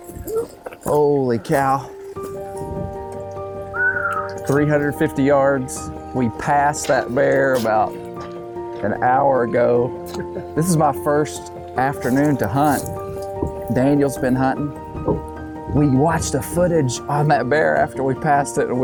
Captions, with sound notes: Holy cow. (whistles) 350 yards. We passed that bear about an hour ago. This is my first afternoon to hunt. Daniel's been huntin'. We watched the footage on that bear after we passed it